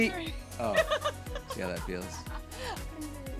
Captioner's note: laughter